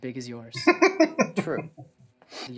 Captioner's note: laughing